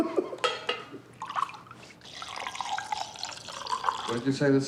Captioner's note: Bobby laughing; Adela laughing; drinks trickling